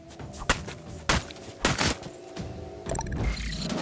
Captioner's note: none